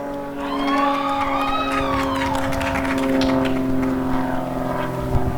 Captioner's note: applause and cheering